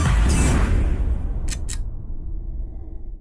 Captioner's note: click